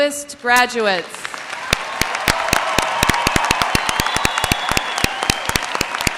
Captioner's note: audience cheers and applauds